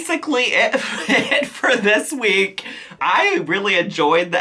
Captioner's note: chuckles